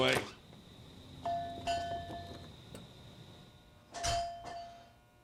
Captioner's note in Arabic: جرس الباب